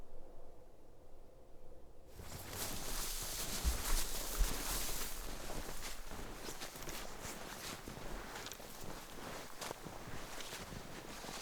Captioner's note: sound of footfalls in snow